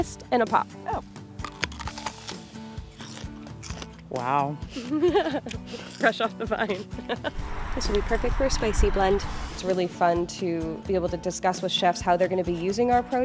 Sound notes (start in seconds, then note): 1.1 crunching; 4.7 chuckles